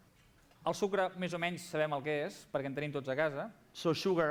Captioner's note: non-english speech